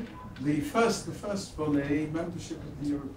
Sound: speaks French

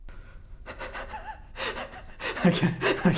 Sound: wheezing noises

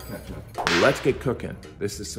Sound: whip cracking

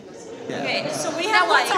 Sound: audience laughs

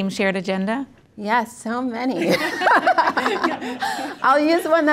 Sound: laugh

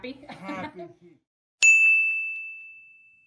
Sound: laughs

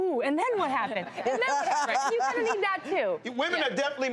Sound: laughter

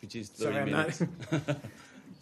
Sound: laughter

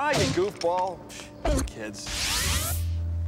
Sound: scoffs

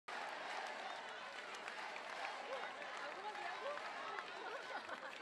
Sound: applause

